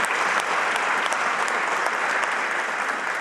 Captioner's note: applause